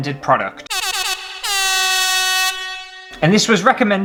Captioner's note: air Horns